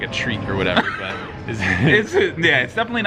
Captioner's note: laughing